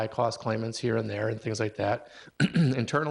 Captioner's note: clears throat